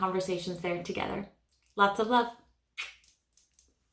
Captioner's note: kisses